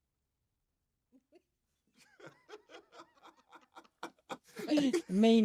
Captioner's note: they laugh